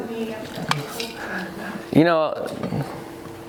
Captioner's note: murmurs